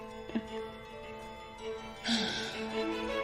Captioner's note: chuckles; sighs